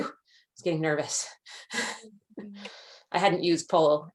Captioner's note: chuckles